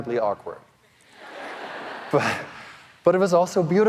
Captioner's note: audience laughing